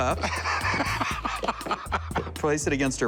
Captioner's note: laughs